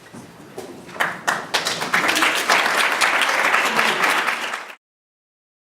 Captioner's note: audience clapping